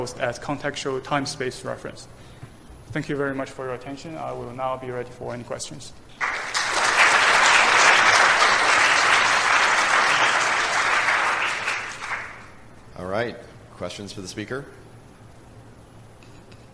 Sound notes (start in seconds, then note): 6.2 applause